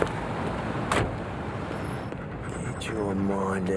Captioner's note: van door shuts